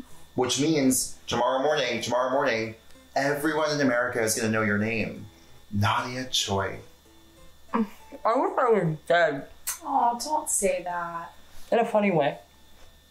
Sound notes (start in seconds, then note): none